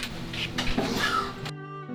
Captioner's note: gasp